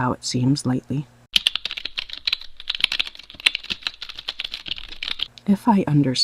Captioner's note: typing sound effect